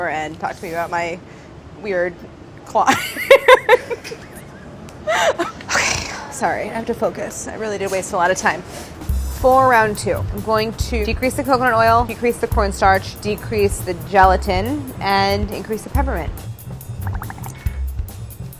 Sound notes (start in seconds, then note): 3.1 laughing; 8.7 upbeat jazzy music